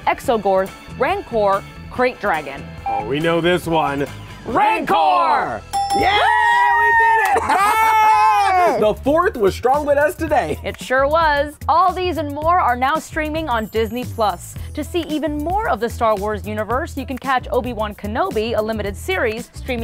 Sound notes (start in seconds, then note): 2.8 timer beeping; 5.7 dinging; 6.0 screaming; 7.1 laughs